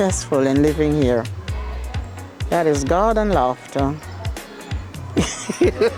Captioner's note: chuckles